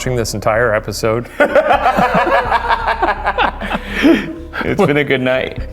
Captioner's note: laughing